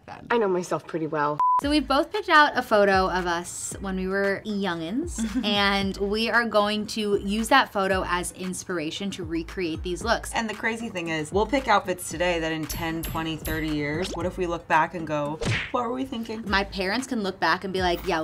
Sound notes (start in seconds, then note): 1.4 beeping